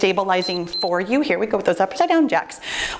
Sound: timer beeps

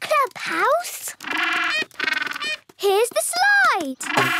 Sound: honking

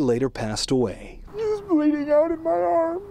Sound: crying

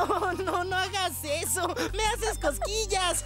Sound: laughing; chuckling

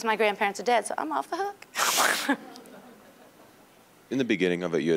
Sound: all laughing

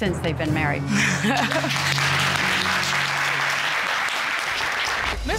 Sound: laughs with relief; applause

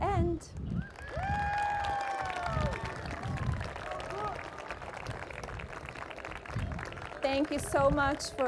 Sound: applause

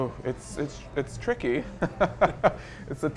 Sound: laughs

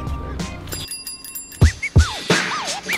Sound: bicycle bell chimes; urban music

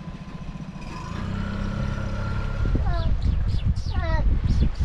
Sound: dinghy engine roars

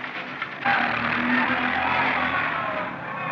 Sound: chattering, Shouting

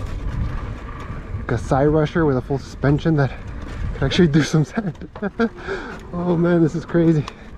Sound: laughs

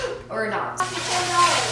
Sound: gasp

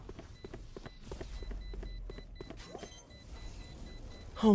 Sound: beeping

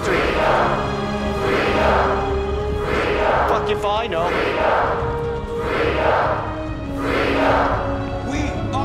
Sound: chanting

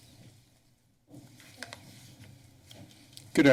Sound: silent

